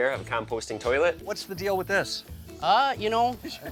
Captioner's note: laughing